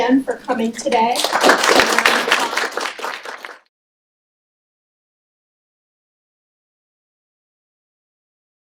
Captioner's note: applause